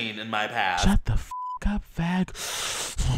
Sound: in high pitched tone; sharp inhale

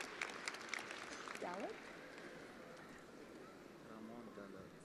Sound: attendees applauding

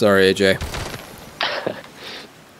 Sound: shoots gun

